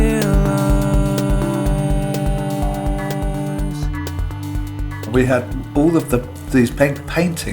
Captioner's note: soundbite of archived recording